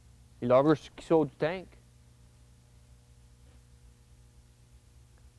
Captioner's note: speaking Acadian French